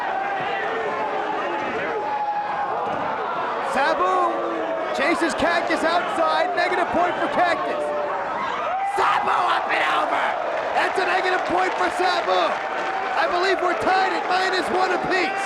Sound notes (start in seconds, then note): 12.4 spectators cheering and applauding